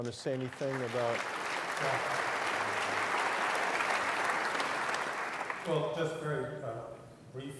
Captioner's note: applause